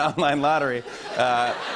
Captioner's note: laughter